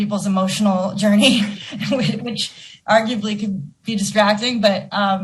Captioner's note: laughing